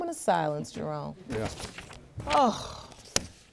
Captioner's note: judge lake sighing